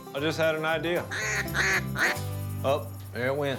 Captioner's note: quacking